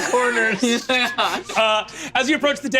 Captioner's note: laughs